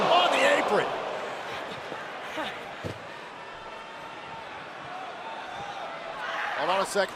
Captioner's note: crowd cheering